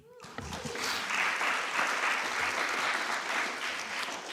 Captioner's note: applause